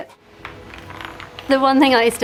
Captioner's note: ball rolling